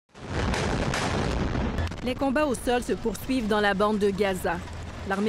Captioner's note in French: explosions